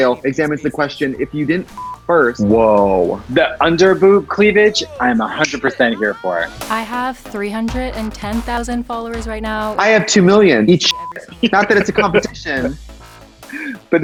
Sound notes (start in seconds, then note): 1.1 beep; 5.6 snaps; 6.6 upbeat music; 10.7 laughs; 13.1 upbeat music